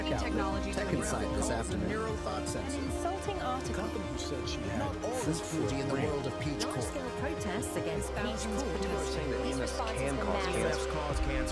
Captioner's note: background Voices